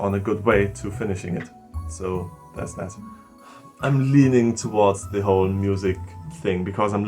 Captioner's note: sigh